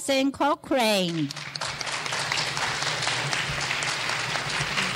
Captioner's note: clapping